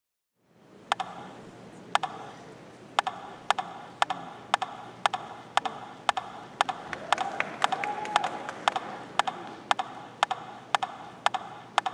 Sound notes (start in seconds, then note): 2.9 rhythmic tapping; 8.7 audience clapping